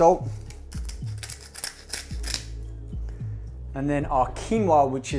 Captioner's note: salt grinding